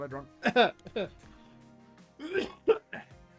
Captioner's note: coughs